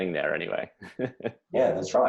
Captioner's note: laughs